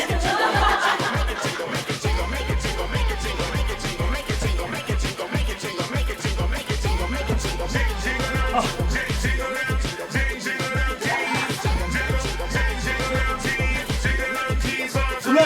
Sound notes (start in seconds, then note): 5.2 jingling never stops